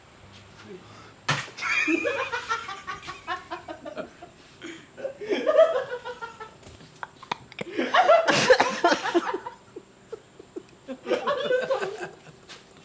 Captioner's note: laughs